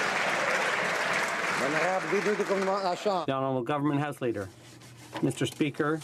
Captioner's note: some Applause